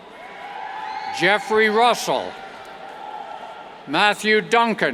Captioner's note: cheers